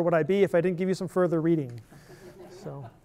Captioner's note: laughter